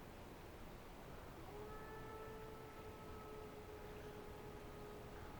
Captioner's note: wolves howling